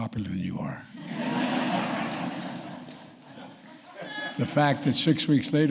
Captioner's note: laughter